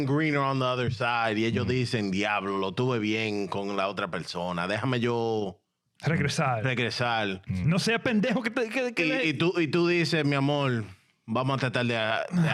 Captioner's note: speaking In Foreign Language